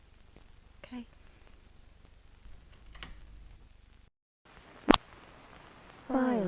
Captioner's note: the door closes softly, grumbles and slams something against the desk